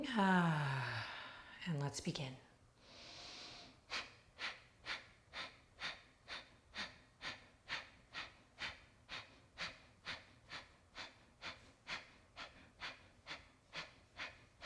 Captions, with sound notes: (sighs) And let's begin. (sharp breathing)